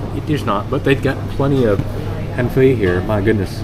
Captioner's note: speaking Vietnamese